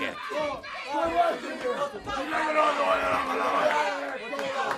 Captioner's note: crowd chatter